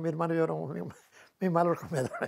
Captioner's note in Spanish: ríe